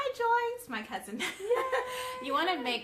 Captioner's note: laughing